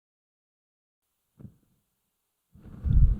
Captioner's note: silence